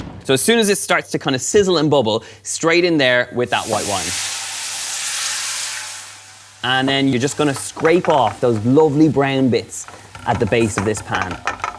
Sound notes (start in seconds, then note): 4.0 sizzling